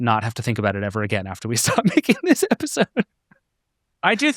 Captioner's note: laughing